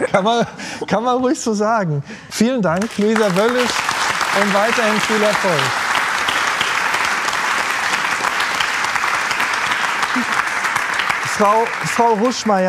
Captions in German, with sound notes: Ja, schon, sonst würde ich's ja nicht machen. Kann man ruhig so sagen. Vielen Dank, Luisa Wöllisch, und weiterhin viel Erfolg. (Applaus)